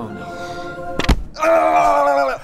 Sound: thud

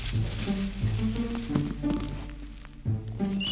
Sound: squeaking

